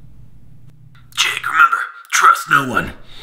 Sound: loudspeaker

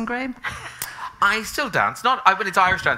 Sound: chuckling

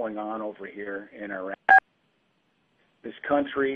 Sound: beeping

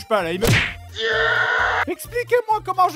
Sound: aaaaaaaaaaah

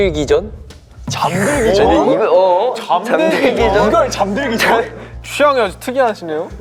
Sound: Murmuring at Jinhwa's answer

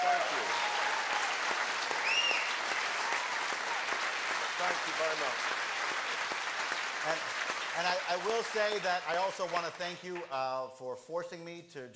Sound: applause

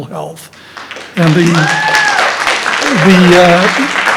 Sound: audience applauding

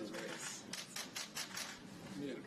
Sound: camera clicks

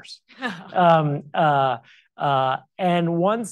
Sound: chuckles

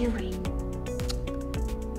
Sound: muack

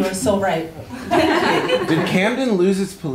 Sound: laughter

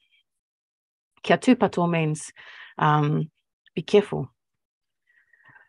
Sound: speaking Maori

